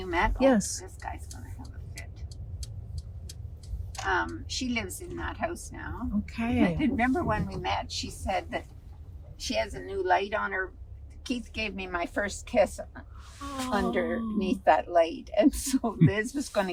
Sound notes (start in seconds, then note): 15.0 laughing